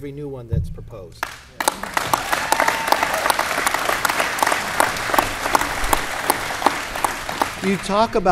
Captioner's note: applause